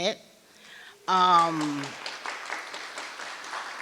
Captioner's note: applause